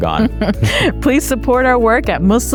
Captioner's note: chuckling